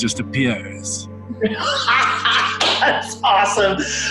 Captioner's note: laughs; claps